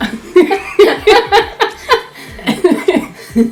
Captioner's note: laughing